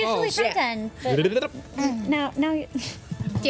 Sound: trilling noise

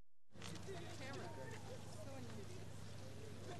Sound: chatter

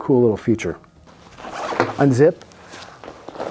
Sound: high pitched zipping

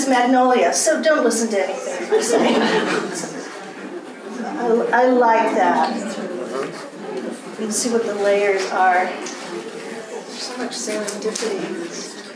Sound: laughter

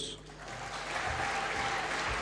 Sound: applause

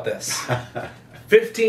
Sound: laughs

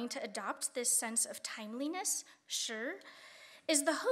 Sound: speaking Chinese

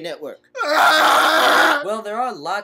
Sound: KEVIN screams unintelligibly

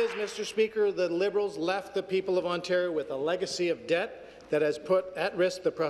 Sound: some Applause

